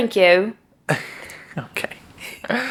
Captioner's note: laughs